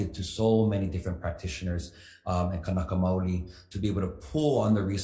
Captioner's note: speaks foreign language